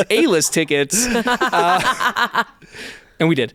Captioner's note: laughs